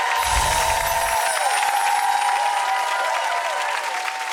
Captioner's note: audience cheering